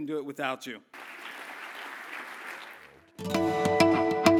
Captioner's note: applause